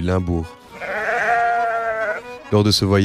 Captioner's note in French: Bêlements de moutons